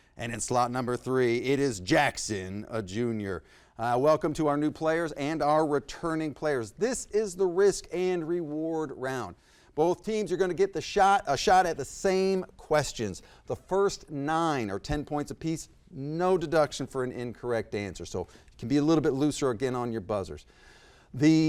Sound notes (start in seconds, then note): none